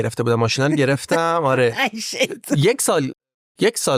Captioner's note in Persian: خنده